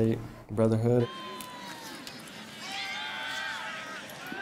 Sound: cheering

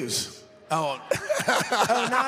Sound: laughing

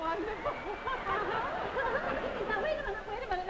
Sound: audience laughs

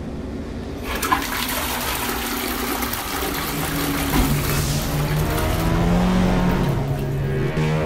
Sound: toilet flush

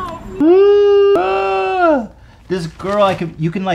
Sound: yelling

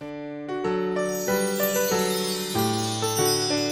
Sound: chimes

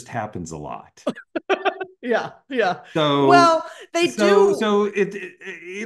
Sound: laugh

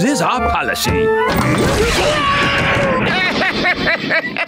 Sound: screaming; laughing

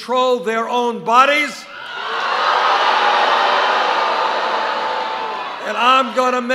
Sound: boos

